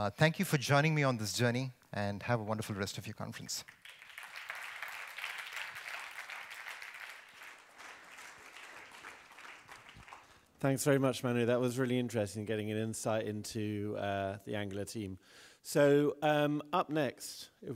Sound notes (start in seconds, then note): 3.6 applause